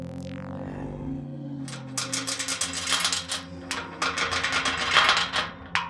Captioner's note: chains rattling